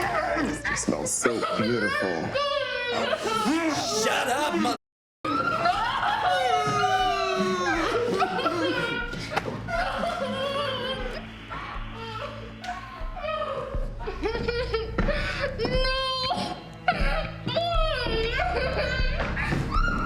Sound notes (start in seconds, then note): 4.8 victims groaning; 11.4 dramatic music; 16.8 Ema crying